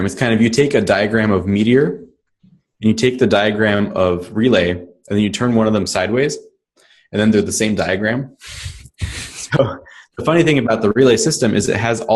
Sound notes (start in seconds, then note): 8.5 laughs